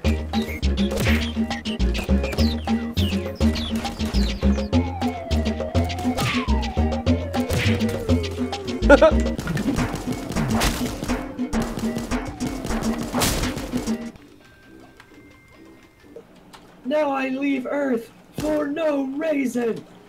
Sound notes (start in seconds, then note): 8.8 chuckle